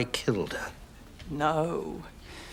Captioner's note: shakily